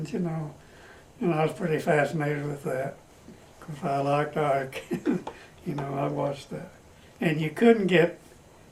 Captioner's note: laughs